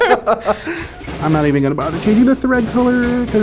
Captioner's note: laughs